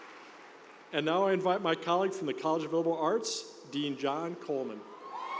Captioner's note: cheers and applause